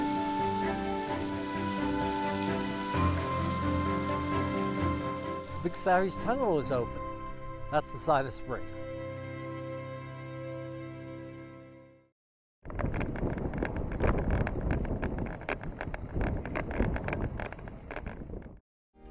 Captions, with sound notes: - The Big Savage Tunnel is open. That's the sign of spring. (bike wheel clicking)